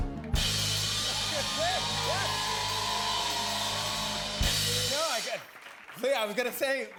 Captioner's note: cheers and applause